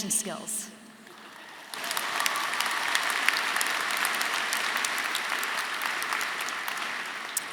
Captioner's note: audience applauding; audience cheering